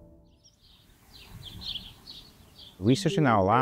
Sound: birds chirping

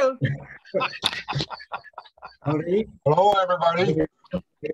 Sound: man laughs

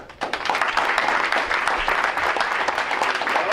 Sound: crowd applauds

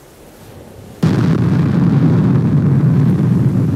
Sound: nuclear Explosion

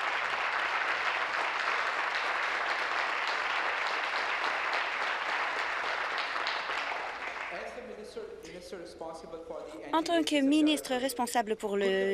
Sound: applause

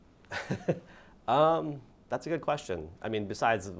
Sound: laughs

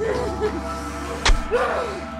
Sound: stab

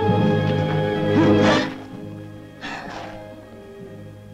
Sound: Natalie gasping

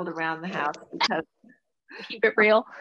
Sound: laughs

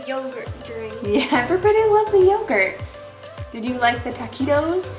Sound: laughing

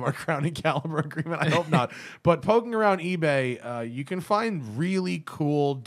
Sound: laughter

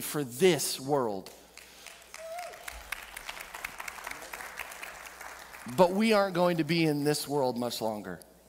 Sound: audience clapping

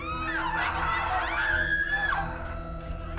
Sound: screams; woman screaming; ominous music

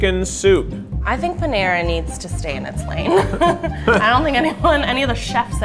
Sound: laughing

